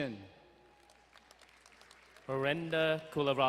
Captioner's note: distant cheering